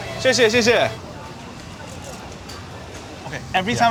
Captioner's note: man speaking foreign language